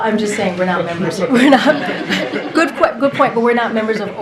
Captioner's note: laughter